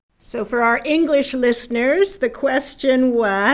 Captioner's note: in English